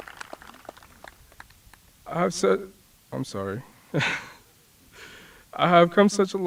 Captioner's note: applause